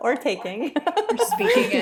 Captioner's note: laughter